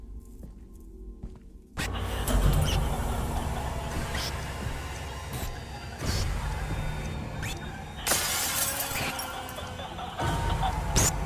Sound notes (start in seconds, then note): 5.0 eerie sounds; 8.0 mirror breaks